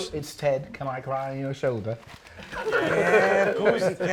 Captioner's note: laughs